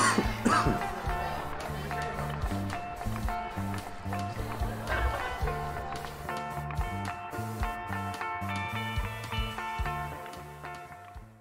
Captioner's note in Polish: Aplauz